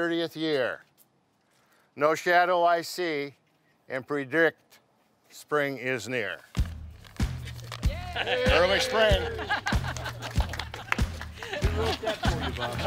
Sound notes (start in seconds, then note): 7.8 crowd cheers